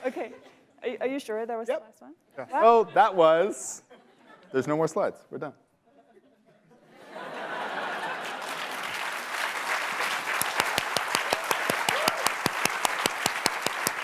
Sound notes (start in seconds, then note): 5.8 laughter; 7.8 applause